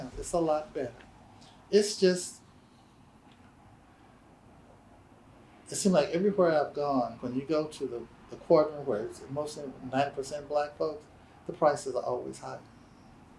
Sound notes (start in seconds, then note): none